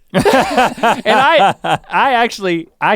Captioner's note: both laugh